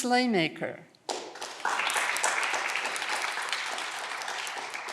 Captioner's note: audience clapping